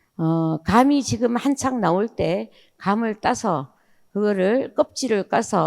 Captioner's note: speaking in foreign language